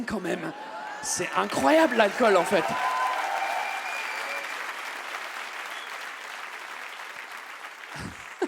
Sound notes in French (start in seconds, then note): 3.3 le public applaudit et acclame